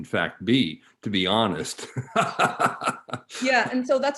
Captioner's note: laughing